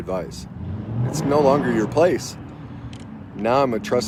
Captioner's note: engine revving